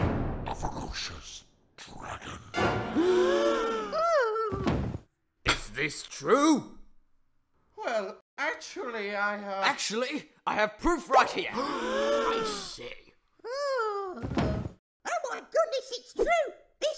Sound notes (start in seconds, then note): 3.9 wail; 4.6 thud!; 13.4 wail; 14.2 thud!